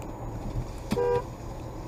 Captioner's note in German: Filmendes Auto hupt